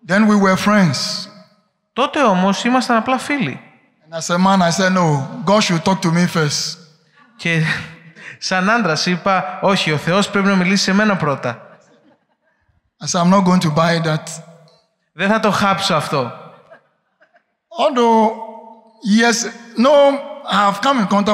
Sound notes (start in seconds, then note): 7.2 laughing